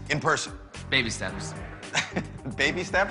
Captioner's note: chuckles